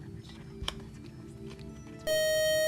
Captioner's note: beeping